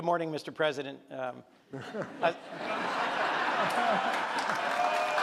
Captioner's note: audience laughs